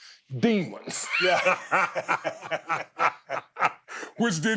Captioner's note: both laughing